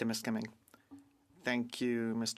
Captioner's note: speaking French